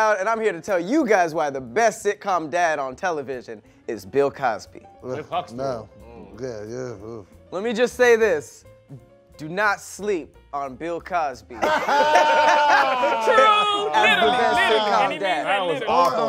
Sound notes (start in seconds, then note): 6.0 groans; 11.6 laughing